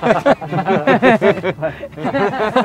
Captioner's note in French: rires